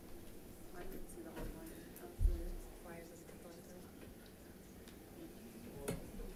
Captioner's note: audience chattering indistinctly